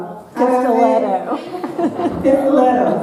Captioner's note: laughs